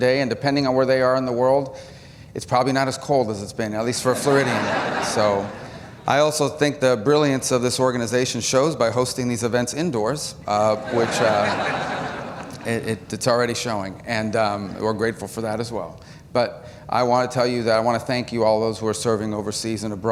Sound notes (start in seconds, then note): 4.0 laughter; 10.7 laughter